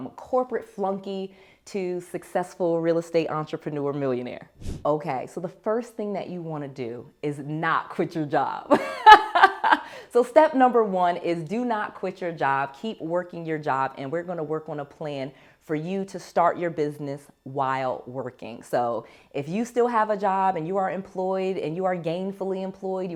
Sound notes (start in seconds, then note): 8.8 laughs